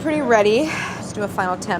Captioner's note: sighs